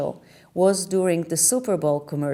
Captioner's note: none